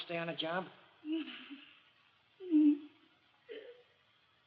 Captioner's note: moans